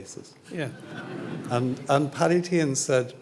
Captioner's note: audience laughing